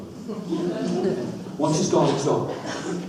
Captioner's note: audience laughs